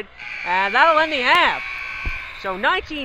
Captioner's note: buzzer rings